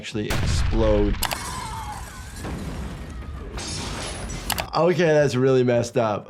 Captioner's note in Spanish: compradores gritando